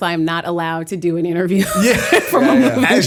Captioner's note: laughter; chuckle